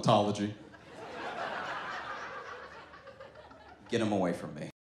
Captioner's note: audience laughs